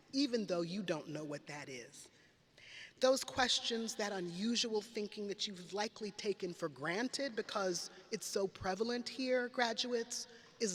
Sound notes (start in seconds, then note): none